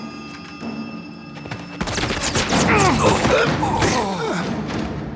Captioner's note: gunfire